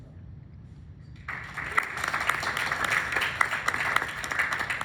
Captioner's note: clapping